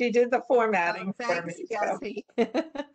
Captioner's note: laughter